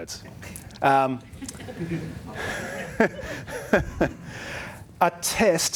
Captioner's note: audience chuckles; laughs